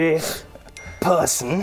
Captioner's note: ding!